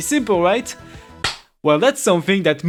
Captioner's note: clap